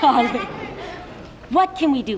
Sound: Shari Lewis laughs

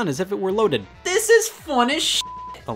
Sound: beep

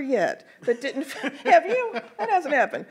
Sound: laughs

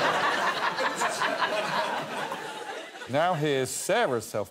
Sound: laughter

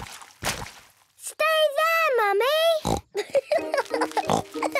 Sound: laughing

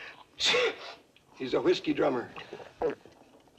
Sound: sneezes; gulps

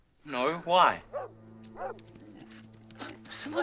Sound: Rusty barking

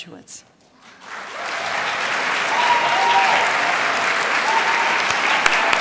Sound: crowd cheers and applauds

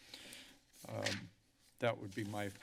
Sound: papers flipping

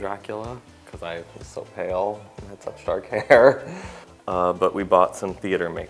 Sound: laughs

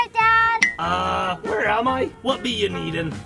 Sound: clinking

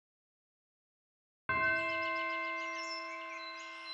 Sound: bells chime

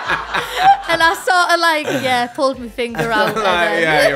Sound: laughs

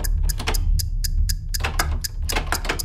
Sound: door handle jiggles

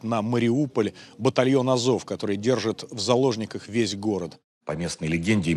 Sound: Ukrainian

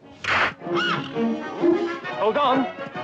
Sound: horse whinnies

